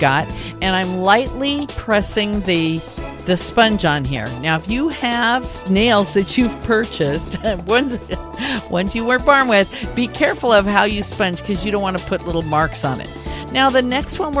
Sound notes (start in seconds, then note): 8.1 chuckle